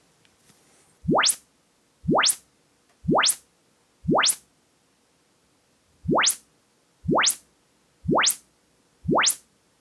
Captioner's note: more measurement sounds